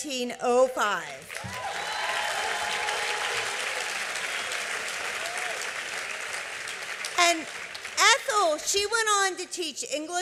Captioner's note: applause